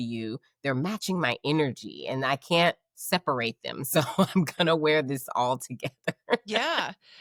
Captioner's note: laughing